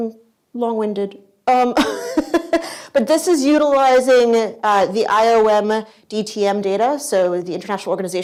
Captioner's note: laughs